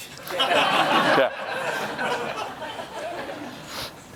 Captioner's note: laughter